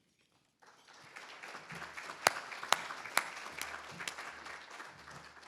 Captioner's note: attendees applauding